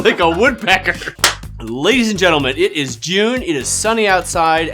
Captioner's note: claps once